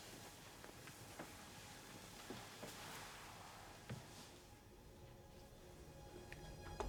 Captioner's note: pensive music continues; bedding rustling